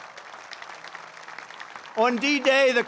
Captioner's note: applause